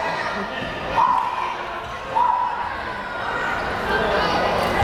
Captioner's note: crowd chatter